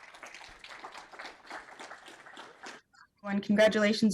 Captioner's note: audience applauding